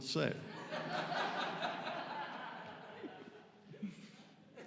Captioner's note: audience laughing